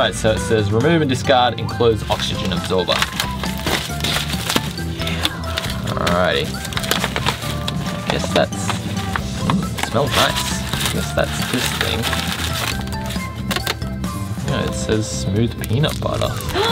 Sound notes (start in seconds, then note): 3.3 bag rips; 9.5 sniffs